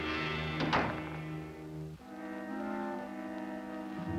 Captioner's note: door closing